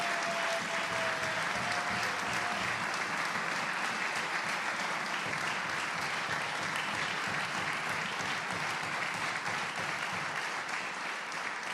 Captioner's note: applause